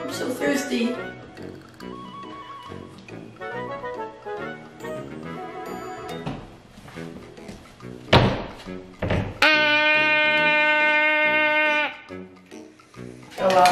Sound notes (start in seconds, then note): 2.4 soft music; 9.0 door closing; 10.3 girl shouting